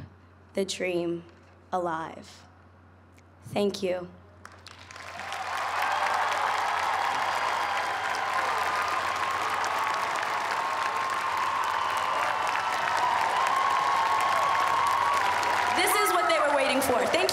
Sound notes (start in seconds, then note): 4.5 cheers and applause